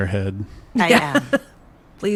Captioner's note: laughs